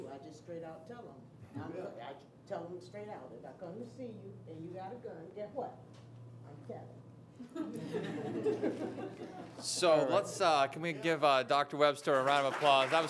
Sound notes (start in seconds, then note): 7.5 audience laughs